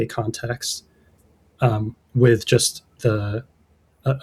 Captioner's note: uh